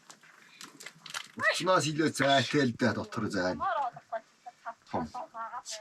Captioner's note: foreign spoken audio